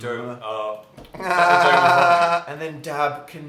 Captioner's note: nasal laugh